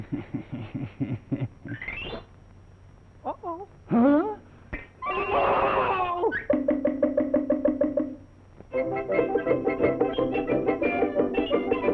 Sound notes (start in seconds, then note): 0.0 laughing; 5.0 screaming